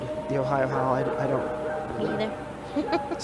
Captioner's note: animal howling; laughs